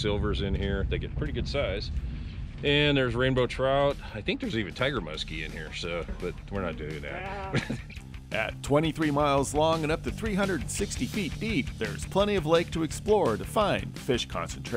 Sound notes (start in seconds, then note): 7.0 laughing